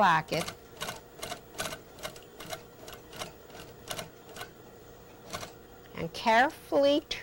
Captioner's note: sewing machine